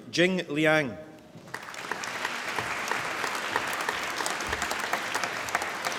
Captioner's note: applause